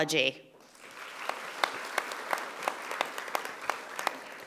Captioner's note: audience applauding